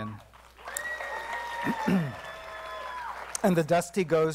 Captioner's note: applause